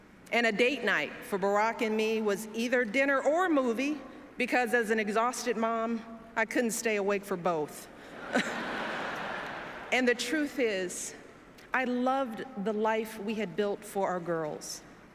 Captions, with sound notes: and a date night for Barack and me was either dinner or a movie, because as an exhausted mom, I couldn’t stay awake for both. [Laughter] And the truth is, I loved the life we had built for our girls.